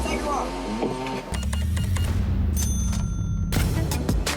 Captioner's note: cash register beeps, dings